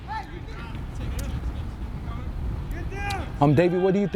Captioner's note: players shouting